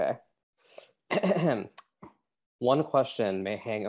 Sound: clears throat

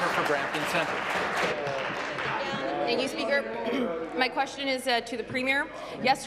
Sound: applause

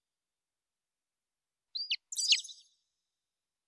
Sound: chirping

